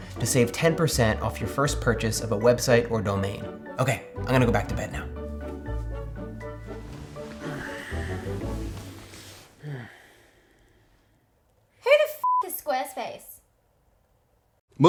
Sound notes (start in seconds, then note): 7.2 sheets rustling; 7.3 exhaling; 9.7 sighing; 12.2 beep